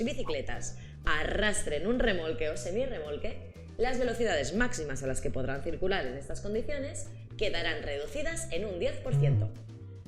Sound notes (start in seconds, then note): none